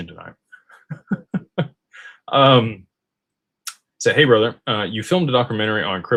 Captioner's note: laughter